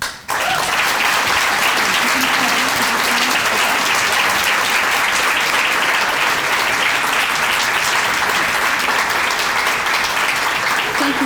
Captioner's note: applause